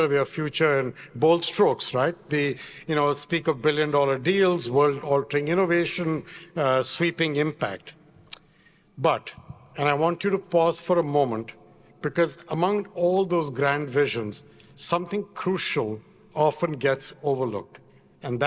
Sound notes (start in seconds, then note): none